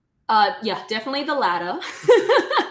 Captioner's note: laughing